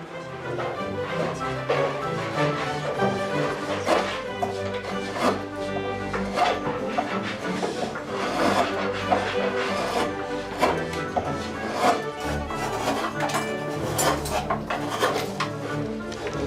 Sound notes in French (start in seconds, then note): 0.2 musique baroque; 4.1 bruit de ciseau à bois; 4.1 musique baroque